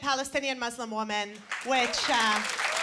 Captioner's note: applause